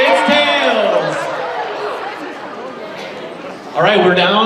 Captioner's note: audience laughs